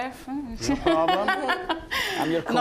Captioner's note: laughing